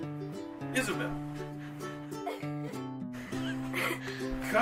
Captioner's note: giggling